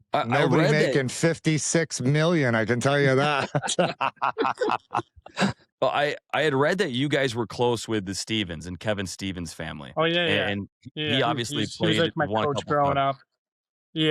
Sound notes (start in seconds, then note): 2.8 laughter